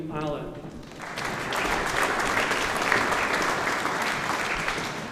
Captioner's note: audience applauding